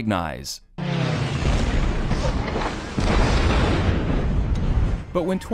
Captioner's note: explosion; plane swooshing